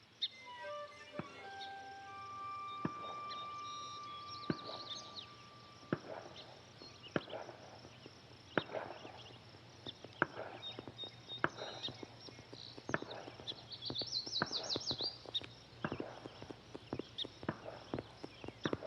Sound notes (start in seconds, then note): 0.3 haunting string notes; 4.1 birds chirping